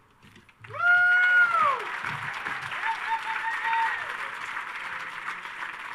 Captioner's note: audience cheers and applauds